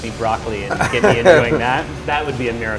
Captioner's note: laughs